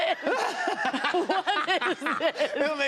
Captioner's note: laughter